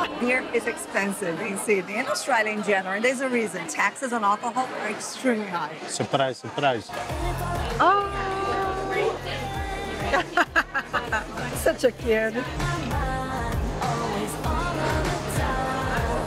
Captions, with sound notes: Beer is expensive in Sydney and Australia in general. There's a reason. Taxes on alcohol are extremely high. - Surprise, surprise. - Ahhh. [laughing] Such a kid.